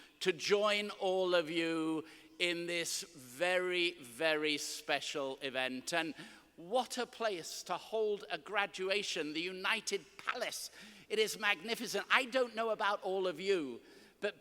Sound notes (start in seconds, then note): none